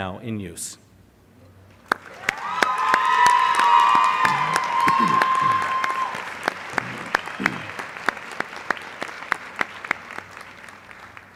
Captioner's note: applause